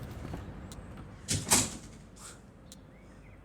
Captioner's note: door close